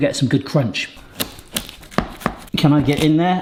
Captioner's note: pastry crunching